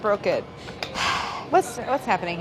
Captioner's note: sighs